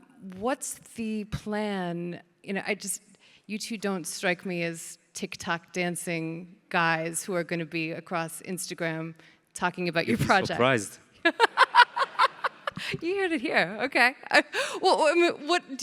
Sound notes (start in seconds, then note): 10.0 laughs